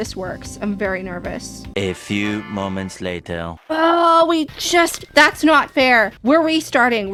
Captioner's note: french accented male narrator voice